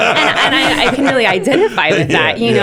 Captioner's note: laughter